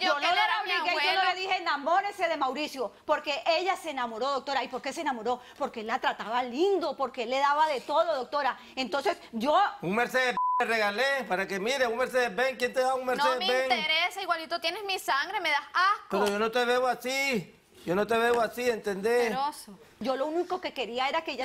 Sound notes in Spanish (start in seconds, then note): 10.3 Bip